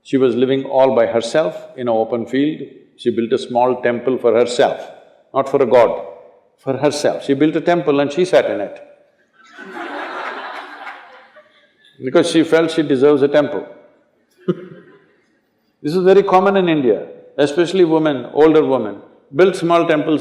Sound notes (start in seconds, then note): 9.4 laughter; 14.4 laughs